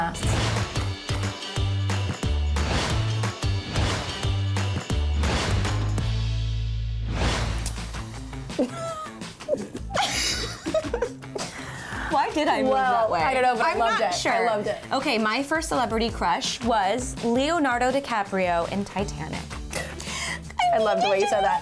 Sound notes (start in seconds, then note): 0.1 lively instrumental music; 8.5 both laughing